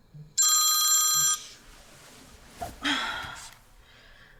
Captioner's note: phone ringing